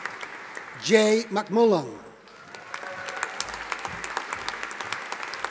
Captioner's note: audience applauding